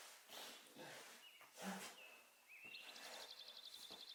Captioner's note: birds chirping